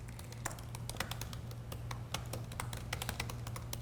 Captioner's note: keyboard clicking